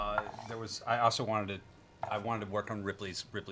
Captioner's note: none